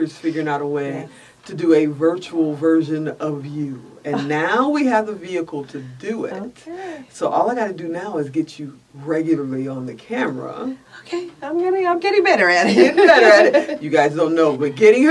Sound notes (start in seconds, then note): 12.8 laughs